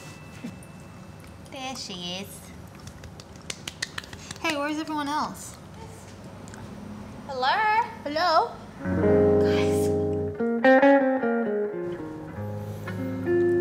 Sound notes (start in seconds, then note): 3.1 clapping; 8.8 gentle guitar music